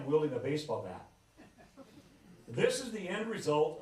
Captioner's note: laughter